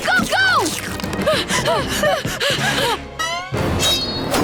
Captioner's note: panting